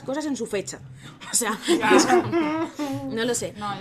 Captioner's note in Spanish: risas